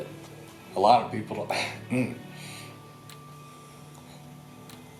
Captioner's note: clearing throat